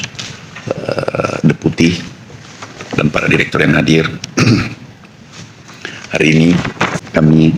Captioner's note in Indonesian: berdehem